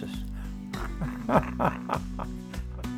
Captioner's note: laughs